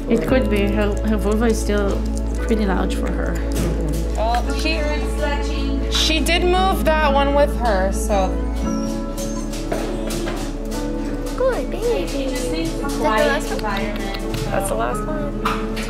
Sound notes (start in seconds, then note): 8.3 dog whining